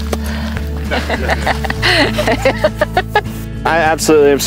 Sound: laughing

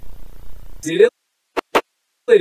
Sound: clap

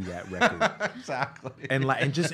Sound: laughing

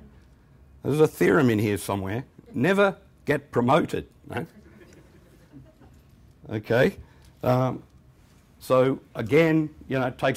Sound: chuckles

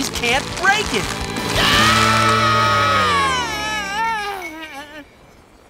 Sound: screaming

